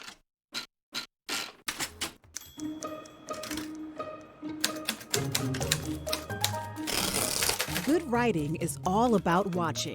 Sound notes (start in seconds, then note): 0.2 typewriter cylinder "scritches"; 4.6 clicking keys, carriage return